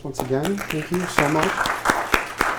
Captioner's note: audience applauds